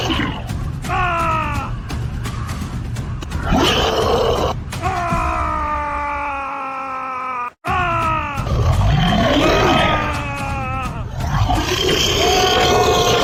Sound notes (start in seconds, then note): 0.0 monster Roar; 0.3 shouting; 6.0 shouting; 11.0 monster Roar